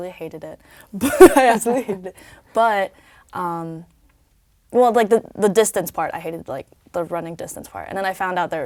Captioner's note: laugh